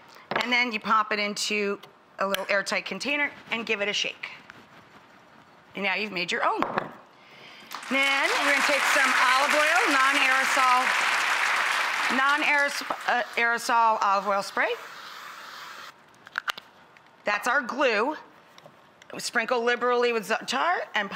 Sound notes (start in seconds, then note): 7.7 clapping